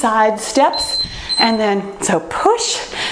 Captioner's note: timer beeps